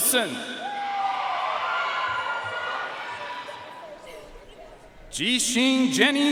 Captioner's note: audience cheering and applauding